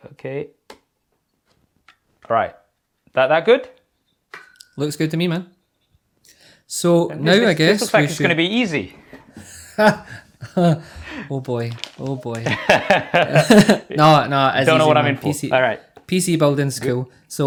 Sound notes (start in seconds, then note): 9.4 laughing